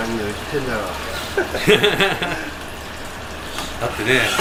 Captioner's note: laughs